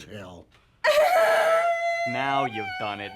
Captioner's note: Catherine weeping